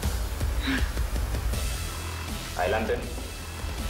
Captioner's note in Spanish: Suspiros